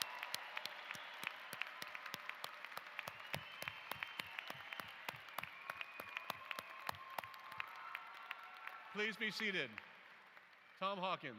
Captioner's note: applause